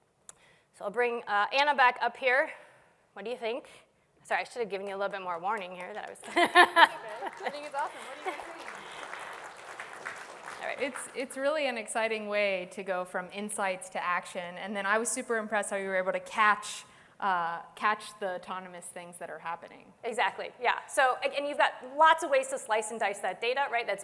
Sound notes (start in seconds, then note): 6.2 laughter; 8.9 applause